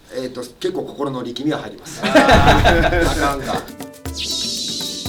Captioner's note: laughs